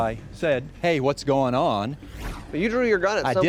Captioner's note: whooshing